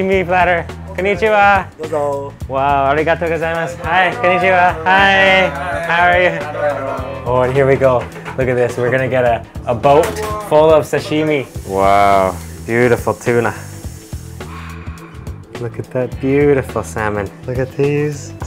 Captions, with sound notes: Konnichiwa! (speaks Japanese) Wow, arigato gozaimasu. Hi, konnichiwa! Hi, how are you? Oh, here we go, look at this. We're gonna get a boat full of sashimi. Wow, beautiful tuna. Wow, look at that beautiful salmon. Look at these scallops.